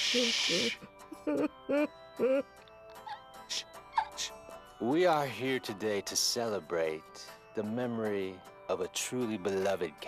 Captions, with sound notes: SHH... (sobbing continues) SHH. SHH. WE ARE HERE TODAY TO CELEBRATE THE MEMORY